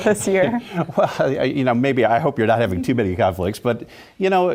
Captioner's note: laugh